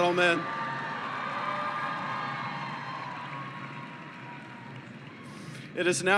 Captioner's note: cheering